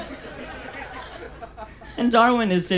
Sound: audience laughs

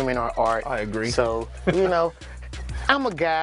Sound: laughs

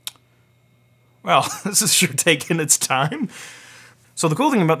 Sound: laughs

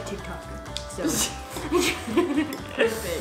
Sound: both laugh

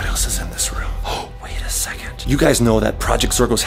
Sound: gasps

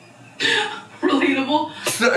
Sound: laughs

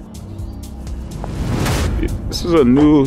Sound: wind whooshing

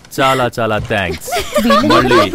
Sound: laughs

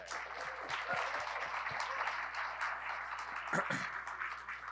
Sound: audience applauding

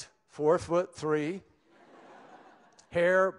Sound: laughter

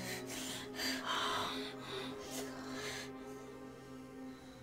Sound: breathing heavily

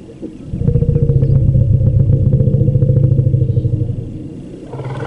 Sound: low rumbling sound

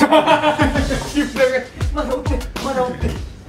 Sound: laughters

